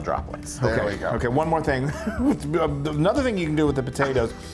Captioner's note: laugh